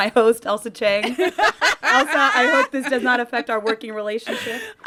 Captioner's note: laughter